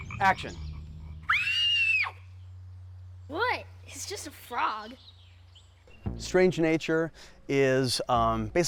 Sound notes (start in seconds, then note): 1.2 girl screaming